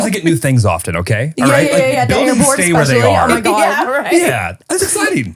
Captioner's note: overlapping chatter